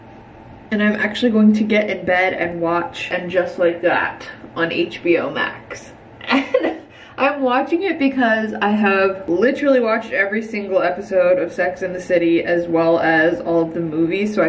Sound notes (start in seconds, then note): 6.2 laughing